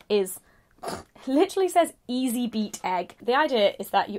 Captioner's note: snorts